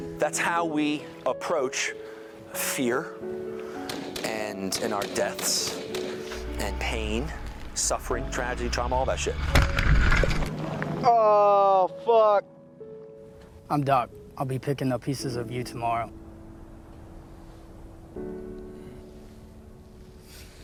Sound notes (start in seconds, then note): 3.9 gunfire bursts; 9.5 blast cracks; 16.3 somber music